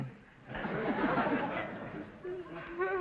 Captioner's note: audience laughter